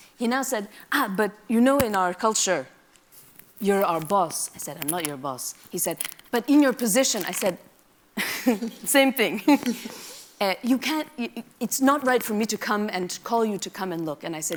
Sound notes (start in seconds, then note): 8.2 laughs